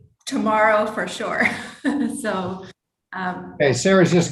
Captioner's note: laughs